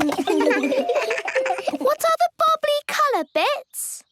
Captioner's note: giggles